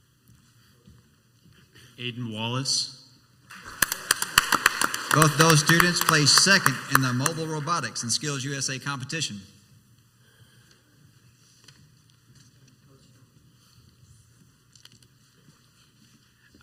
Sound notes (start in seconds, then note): 3.5 crowd applauds